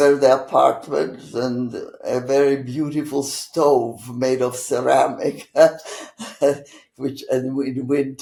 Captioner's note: laughing